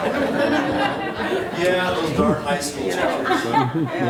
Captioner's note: members laughing